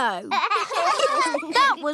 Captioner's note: laughter